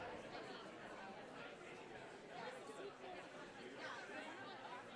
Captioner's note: audience chatter